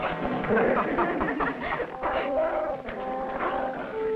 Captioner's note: laughing